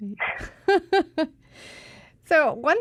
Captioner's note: both chuckling